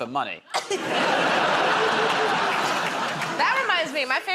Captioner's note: laughter